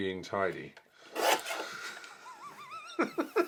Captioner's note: slicing; laughs heartily